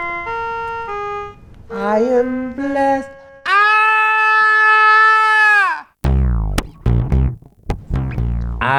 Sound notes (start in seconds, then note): 3.4 screams